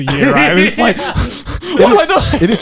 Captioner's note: breathes heavily